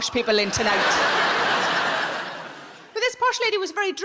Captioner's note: crowd laughs